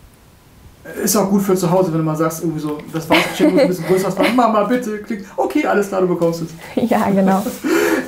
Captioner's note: laughs